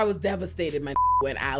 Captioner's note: beep